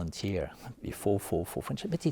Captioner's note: speaking French